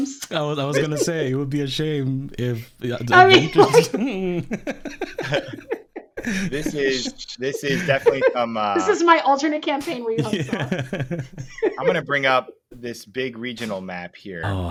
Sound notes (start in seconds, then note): 2.9 all laughing